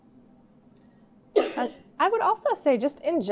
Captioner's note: coughing